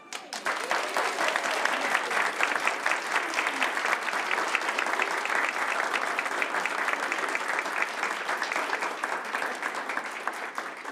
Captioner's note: applause